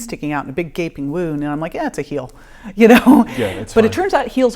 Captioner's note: laughing